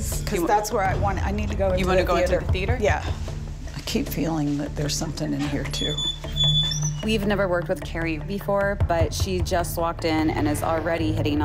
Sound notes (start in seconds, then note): 5.3 door creaking